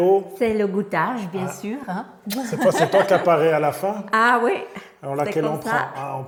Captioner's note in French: rires